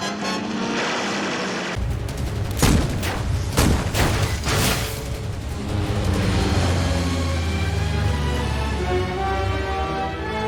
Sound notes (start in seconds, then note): 0.3 helicopter noise; 0.8 machine gun firing, ricochets; 2.5 boom; 3.0 metal clinking; 3.5 boom; 4.0 metal clinking; 4.5 whoosh; 5.0 plane engine